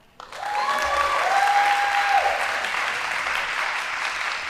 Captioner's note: audience applauding